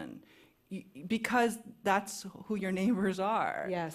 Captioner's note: none